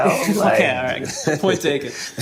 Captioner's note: laughing